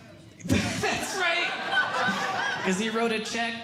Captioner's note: audience Laughing